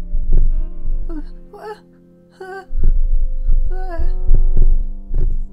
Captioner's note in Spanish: gemidos enteramente consensuales